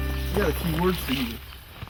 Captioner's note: birds chirp